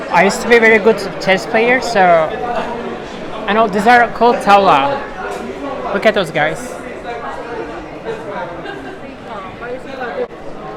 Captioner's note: in Turkish